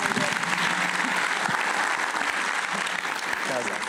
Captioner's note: applause